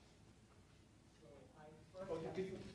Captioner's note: man speaking off mic